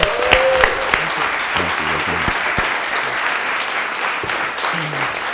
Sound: applause

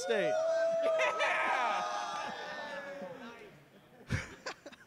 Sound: cheering; laughs

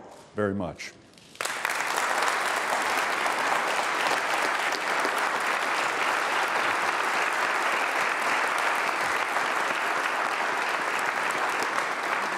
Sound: applause

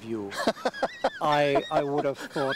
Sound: laughing

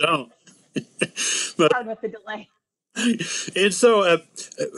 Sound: laugh

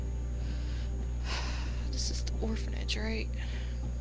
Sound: sigh

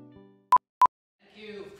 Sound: blooper reel beep sound effect

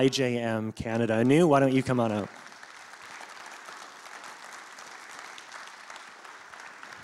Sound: congregation applauds

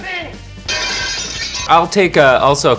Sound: glass shatters

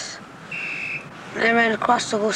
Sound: whistle trills

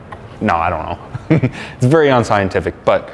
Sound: laughing

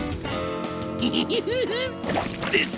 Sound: laughing

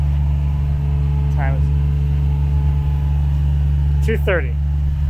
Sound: engine machine rumbling continues

